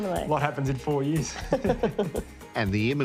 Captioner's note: both laugh